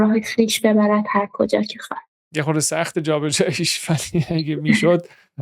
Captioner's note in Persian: خنده